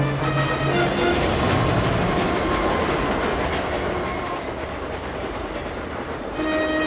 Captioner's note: train rushes